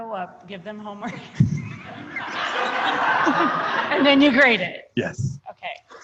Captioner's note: laughter